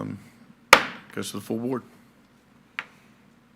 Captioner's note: gavel clacks